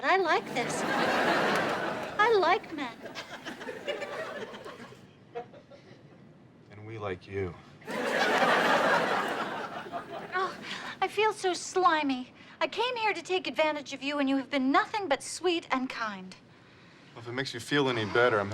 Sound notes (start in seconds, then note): 0.0 audience laughs; 7.8 audience laughs